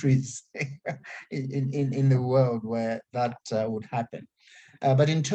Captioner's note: laughs